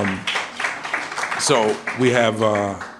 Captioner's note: applause